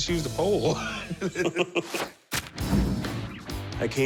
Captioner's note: laughter